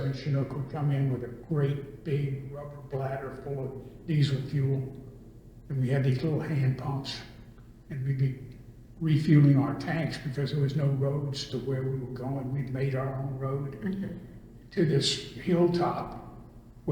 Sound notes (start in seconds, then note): none